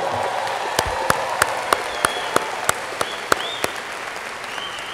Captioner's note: audience applauding